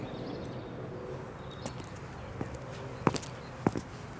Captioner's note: none